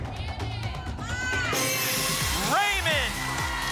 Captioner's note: cheering; ping; applause and cheering